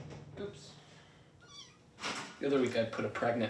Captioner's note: banging; kitten meows